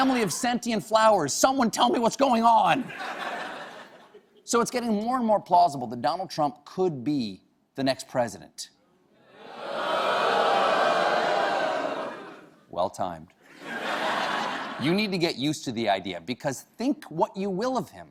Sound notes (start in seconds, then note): 9.3 booing; 13.5 laughter